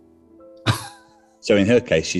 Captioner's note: chuckling